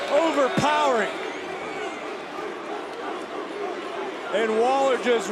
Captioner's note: crowd barking